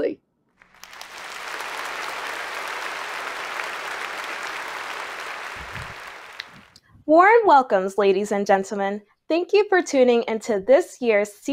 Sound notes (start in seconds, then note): 0.6 applause